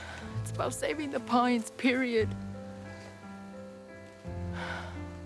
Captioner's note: sighs